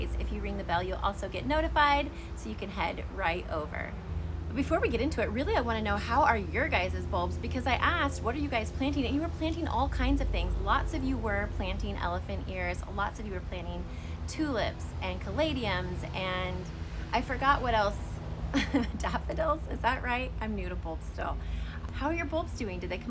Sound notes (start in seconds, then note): 18.6 laughs